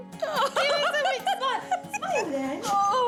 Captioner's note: laughs